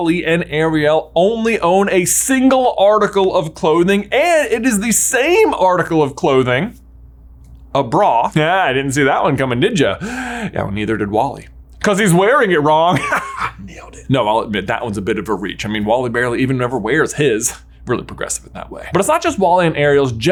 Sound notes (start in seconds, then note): 12.9 laughs